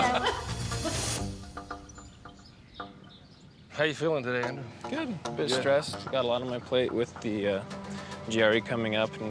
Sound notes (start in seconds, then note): 0.0 everyone laughs; 1.7 birds chirping